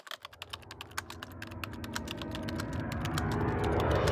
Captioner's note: typing sounds